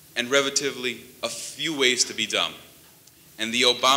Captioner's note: none